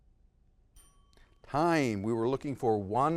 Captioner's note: bell dings